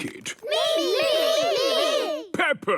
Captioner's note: calling out in turn